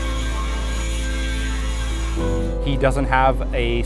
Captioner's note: drilling